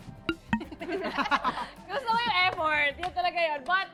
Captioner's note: laughter